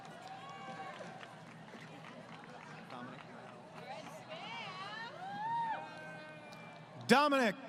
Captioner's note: crowd Cheering